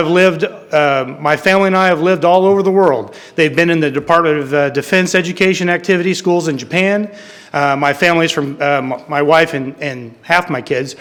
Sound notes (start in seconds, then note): none